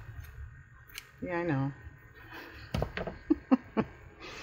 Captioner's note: laughs